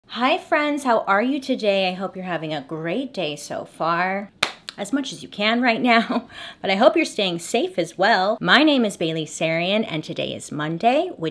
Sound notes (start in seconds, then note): 4.4 claps